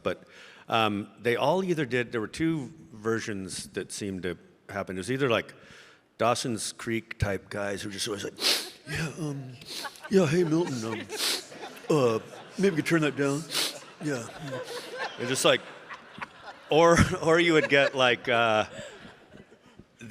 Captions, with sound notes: But they all either did, there were two versions that seemed to happen. It was either like "Dawson's Creek" type guys who were just always like, (sniffs) "Yeah, yeah, hey Milton, um, (sniffs) uh, maybe you turn that down, yeah." (audience laughing) Or you would get like